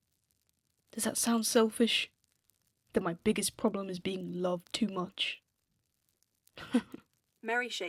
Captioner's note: little laugh